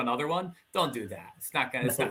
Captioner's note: laughing